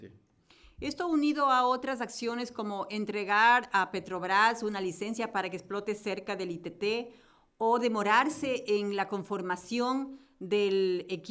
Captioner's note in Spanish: Español